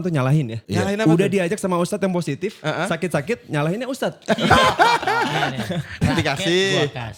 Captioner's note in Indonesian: tertawa